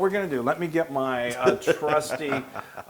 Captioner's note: laugh